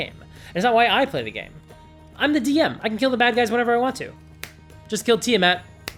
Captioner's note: snap